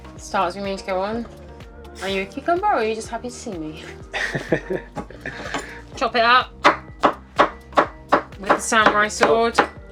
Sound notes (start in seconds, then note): 4.1 laughing